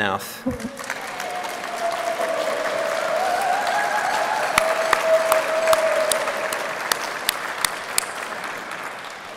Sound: applause

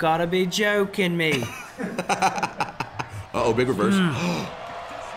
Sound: laugh

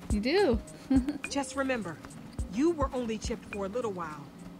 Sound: Sabrina laughs

